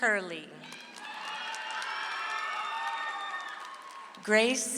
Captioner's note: audience applauds